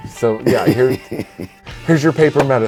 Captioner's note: laughing